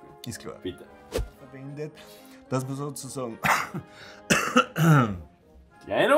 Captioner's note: coughs